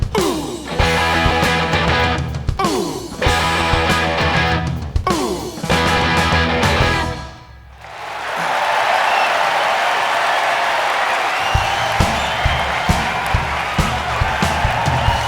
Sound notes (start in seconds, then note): 7.7 crowd cheering and clapping